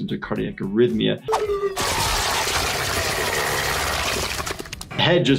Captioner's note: blades grinding